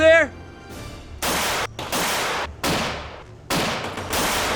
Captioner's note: guns firing